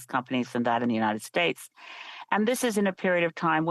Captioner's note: speaking French